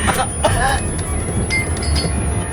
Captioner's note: gasping; Theo coughing